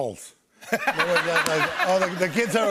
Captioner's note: laughter